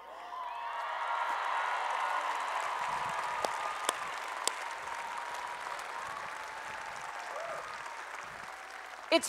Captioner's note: applause and Cheering